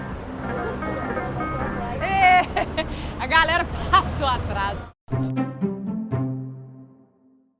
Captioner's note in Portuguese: risos